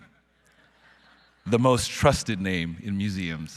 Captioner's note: audience laughing